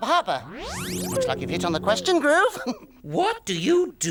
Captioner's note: laughs